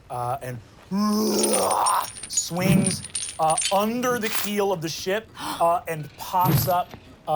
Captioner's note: growls